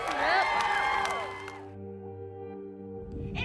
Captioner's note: crowd applauding